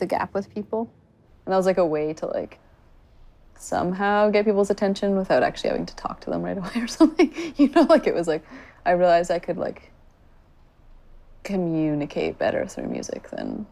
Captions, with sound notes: THAT I LEARNED HOW TO BRIDGE THE GAP WITH PEOPLE, AND IT WAS, LIKE, A WAY TO, LIKE, SOMEHOW GET PEOPLE'S ATTENTION WITHOUT ACTUALLY HAVING TO TALK TO THEM (LAUGHING) RIGHT AWAY OR SOMETHING, YOU KNOW, LIKE, IT WAS LIKE I REALIZED I COULD, LIKE, COMMUNICATE BETTER THROUGH MUSIC